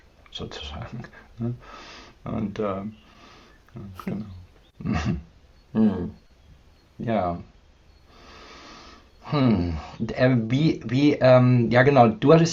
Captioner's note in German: räuspern